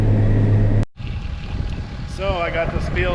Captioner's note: tractor engine churning